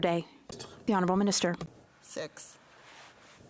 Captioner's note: speaking French